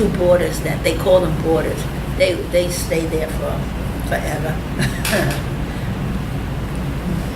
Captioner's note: laughs